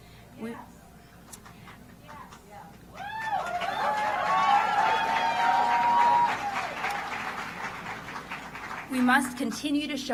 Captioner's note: applause